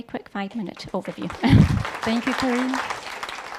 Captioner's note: audience applauds